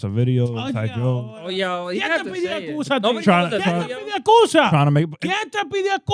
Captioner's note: speaking In Foreign Language